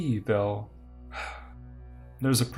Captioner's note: sigh